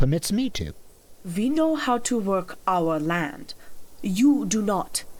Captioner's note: accented